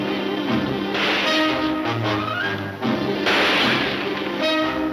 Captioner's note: dramatic music; gunshots banging